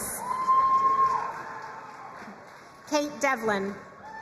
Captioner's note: crowd cheering and applauding